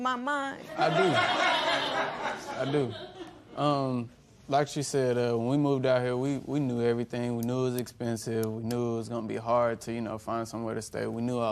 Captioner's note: laughter